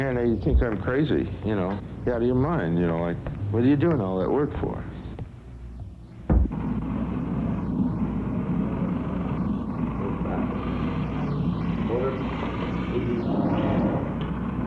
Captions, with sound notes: A lot of them come in here and they think I'm crazy. "You're out of your mind. What are you doing all that work for?" [machine humming]